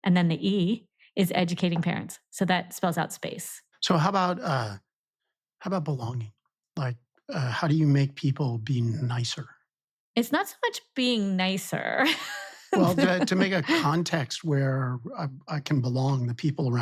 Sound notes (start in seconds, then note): 12.6 laughs